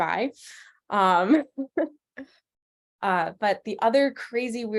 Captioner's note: laughs